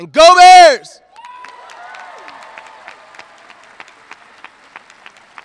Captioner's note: audience cheering